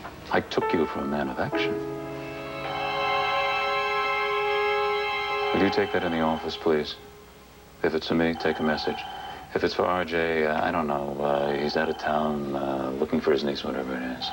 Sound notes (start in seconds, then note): 3.3 telephone rings